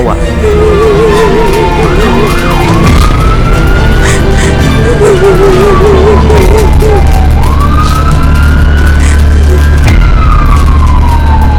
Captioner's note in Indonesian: suara sirine ambulan dan suara wanita menangis